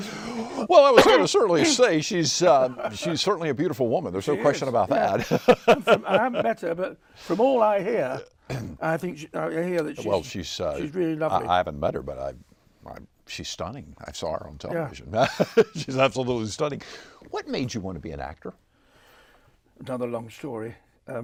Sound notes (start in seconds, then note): 4.9 laughs